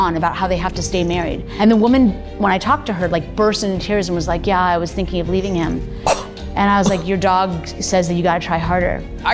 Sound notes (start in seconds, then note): 6.0 gasps